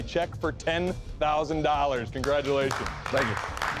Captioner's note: applause